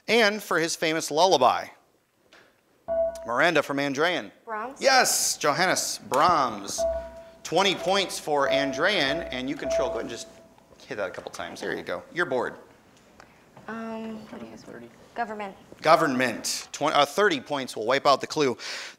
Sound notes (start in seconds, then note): 2.9 ding; 9.3 repeated dinging